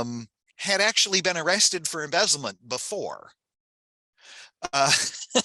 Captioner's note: laughs